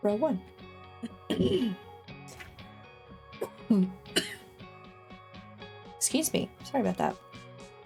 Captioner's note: clears throat, coughs